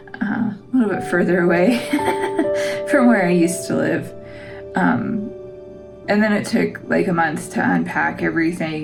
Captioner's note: laugh